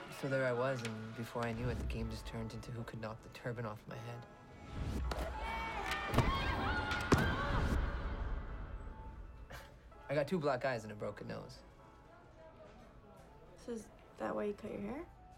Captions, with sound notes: So there l was and before l knew it the game just turned into who could knock the turban off my head. (shouting, laughing) l got two black eyes and a broken nose. - So is that why you cut your hair?